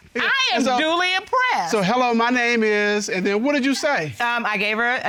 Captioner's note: none